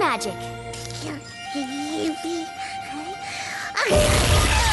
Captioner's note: starting to sneeze; achoo/crash